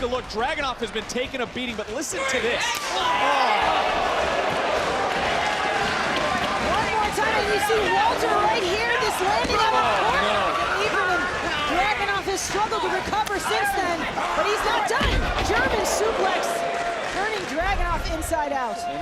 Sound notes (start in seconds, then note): 5.3 applause; 15.4 applause